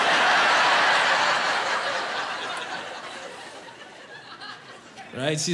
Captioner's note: laughing